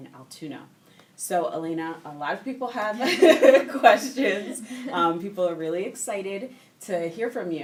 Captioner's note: laughing